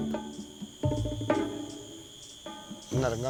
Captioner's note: bahasa Malaysia* spoken audio